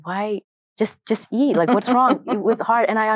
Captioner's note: chuckles